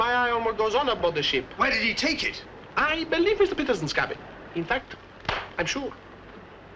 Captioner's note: claps his hands